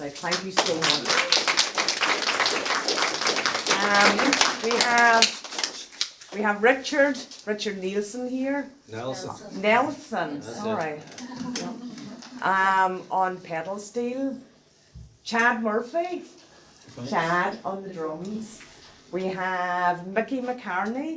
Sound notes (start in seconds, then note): 4.0 applause; 11.0 laughter